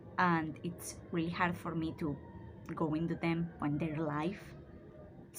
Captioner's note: sirens start in the background; sirens stop